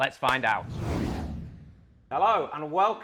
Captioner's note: air whooshing